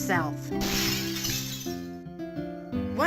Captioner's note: glass shattering